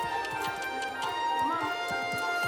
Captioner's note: Debi clicking mouth